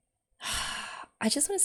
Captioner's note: sighs